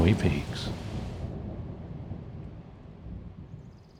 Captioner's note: thunder clears to birds chirping